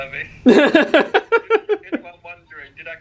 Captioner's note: laughs